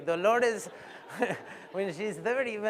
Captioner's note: laughter